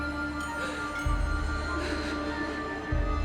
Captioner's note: crying sounds continue